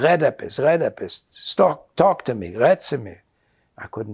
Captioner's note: yiddish; yiddish